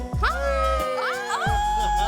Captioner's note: laughing